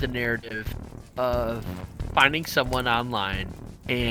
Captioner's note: none